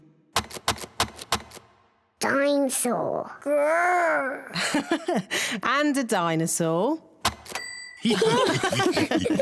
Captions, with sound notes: Dine-saur! Grr! (LAUGHS) And a dinosaur. (ALL LAUGH)